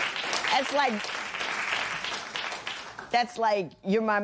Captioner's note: applause